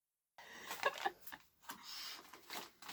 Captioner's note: laughing